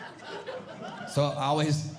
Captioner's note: audience Laughing